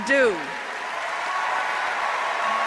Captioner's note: applause